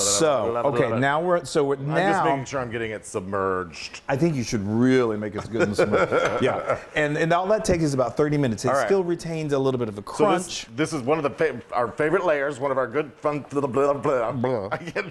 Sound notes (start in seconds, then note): 5.5 laugh